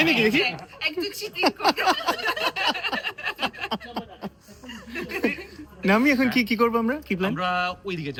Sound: loud laughter

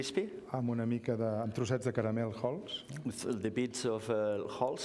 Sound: speaking catalan

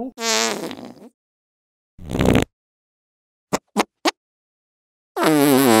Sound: fart sounds

